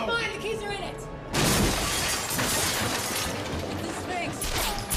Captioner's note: glass shattering; gunshots popping